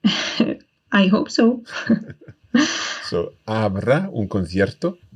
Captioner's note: laughs